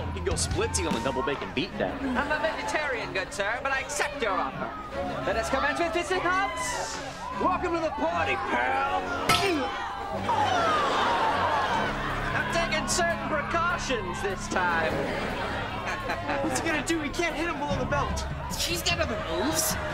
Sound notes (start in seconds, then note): 10.1 groaning; 14.9 chuckles